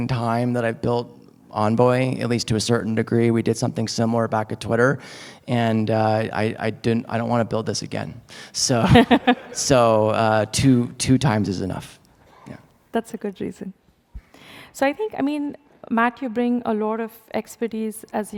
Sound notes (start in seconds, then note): 8.8 laughter